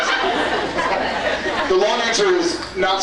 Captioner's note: scattered laughs; laughs